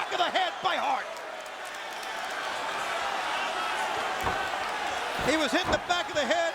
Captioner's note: applause